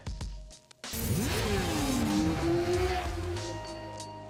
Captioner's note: bike engine roars